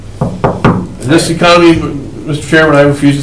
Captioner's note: knocks on the table